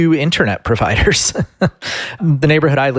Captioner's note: laughs